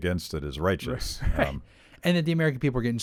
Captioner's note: laughs